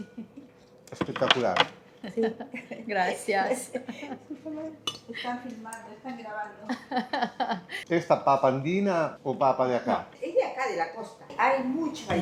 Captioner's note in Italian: risate